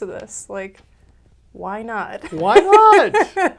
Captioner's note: laughs